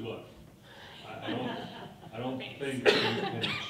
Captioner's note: people laughing